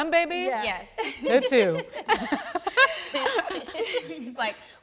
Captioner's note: all laughing